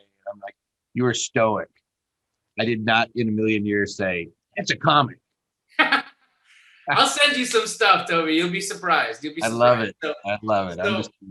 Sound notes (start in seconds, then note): 5.8 laughing